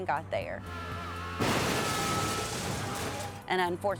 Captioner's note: horns honking; vehicles thudding